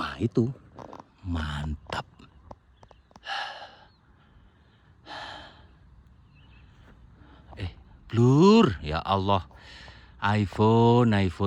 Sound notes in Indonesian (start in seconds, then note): 5.0 terkesiap; 5.0 menghela napas